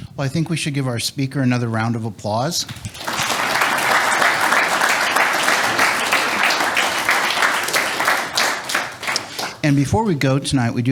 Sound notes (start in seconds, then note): 2.8 audience applauds